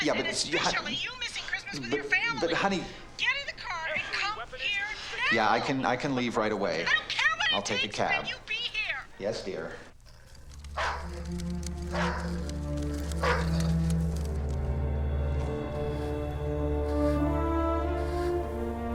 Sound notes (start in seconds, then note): 4.2 on phone; 7.5 on phone; 9.7 on phone; 13.0 dog barking